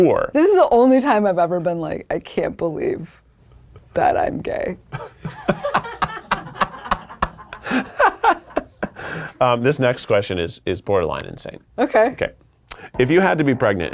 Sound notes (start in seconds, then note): 4.9 people laughing